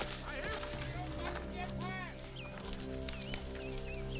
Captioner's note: frantic music softens; men yelling